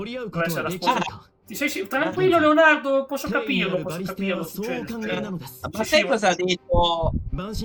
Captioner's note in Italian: risate